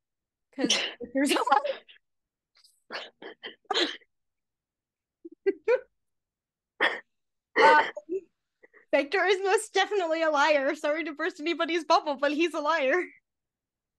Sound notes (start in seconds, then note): 5.2 laughter